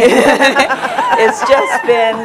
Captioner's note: laughter